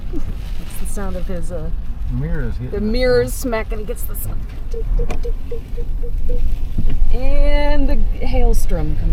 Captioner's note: both laughing.. dink, dink, dink